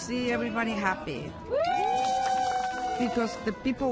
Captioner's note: all cheering